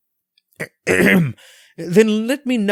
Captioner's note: clears throat